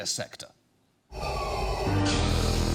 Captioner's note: deep breathing